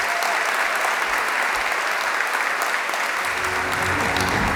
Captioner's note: applause